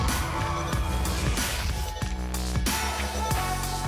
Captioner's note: techno music; crowd applauding